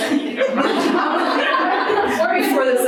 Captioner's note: audience laughing